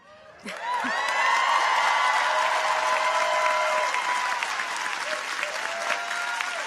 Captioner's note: audience applauds; audience cheers